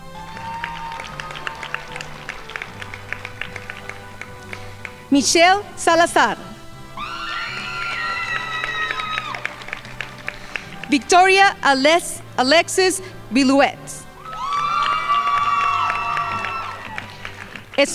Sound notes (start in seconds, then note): 0.0 crowd applauding; 6.5 crowd cheering and applauding; 14.1 crowd applauding